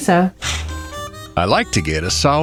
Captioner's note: SFX: closing curtains